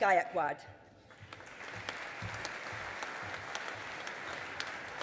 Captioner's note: audience applauding